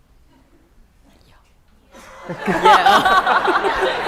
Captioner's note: whispering; laughter